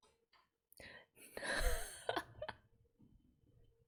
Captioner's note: laughs